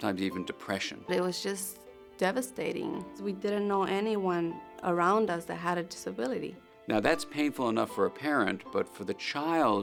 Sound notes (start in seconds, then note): 1.5 female voice